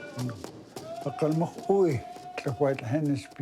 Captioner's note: speaking foreign language